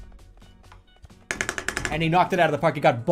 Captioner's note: repeatedly hits the desk